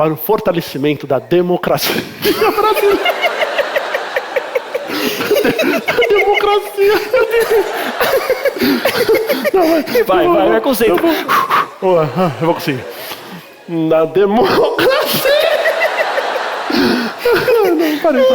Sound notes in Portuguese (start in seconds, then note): 4.8 risos; 8.4 risos; 12.8 respira fundo; 17.0 risos